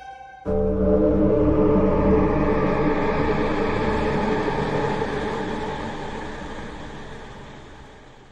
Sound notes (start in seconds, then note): 0.0 eerie Sound Effects